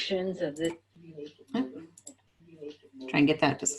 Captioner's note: silence